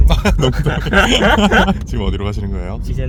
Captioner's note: laughter